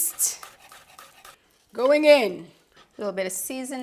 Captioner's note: knife chopping